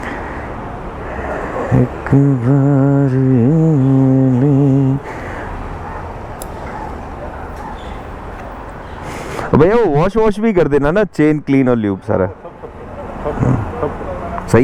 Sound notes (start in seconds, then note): 1.0 humming a song